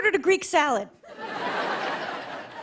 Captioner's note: laughter